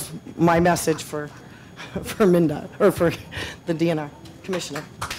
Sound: laughs

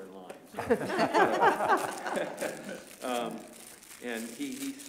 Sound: laughter

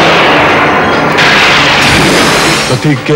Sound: thundering

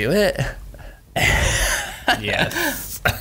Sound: laughs

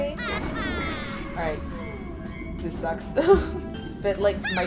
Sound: laughs

